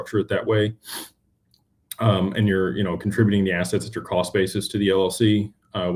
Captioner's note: snorts